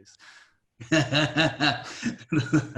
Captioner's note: laughing